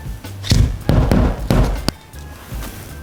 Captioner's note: hammering noises